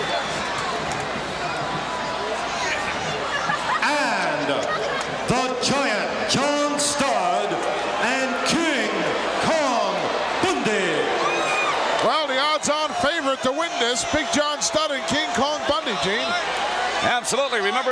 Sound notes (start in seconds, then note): 10.7 audience cheering